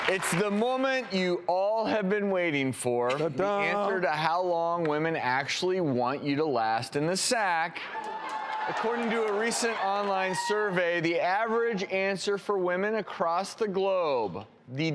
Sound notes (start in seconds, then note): 7.8 cheering and applauding